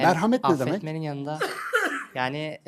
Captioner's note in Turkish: öksürme